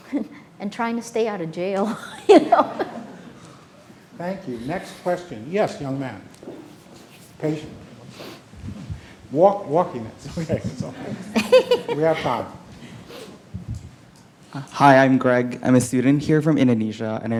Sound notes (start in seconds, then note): 1.8 laughing; 9.7 speaking off mic